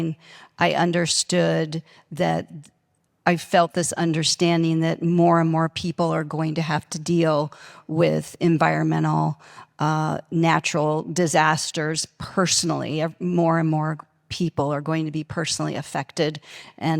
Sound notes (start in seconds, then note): none